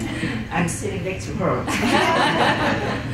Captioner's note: chuckles